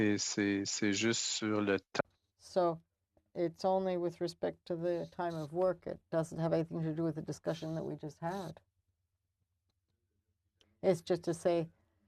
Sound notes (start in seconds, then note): 5.1 speaking French